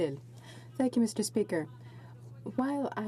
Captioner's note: speaking in french